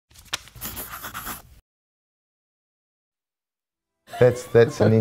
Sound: pencil scratching; chuckles

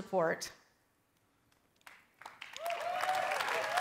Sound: cheering

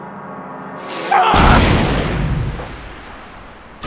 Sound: massive explosion

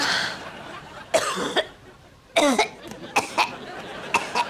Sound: coughing

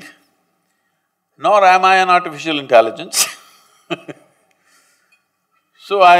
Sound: laughs

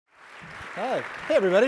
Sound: audience claps

